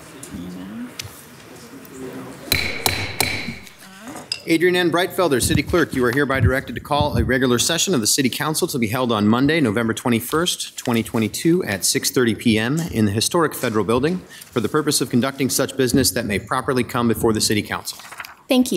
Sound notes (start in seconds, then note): 2.5 gavel taps